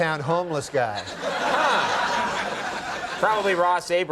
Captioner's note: audience laughing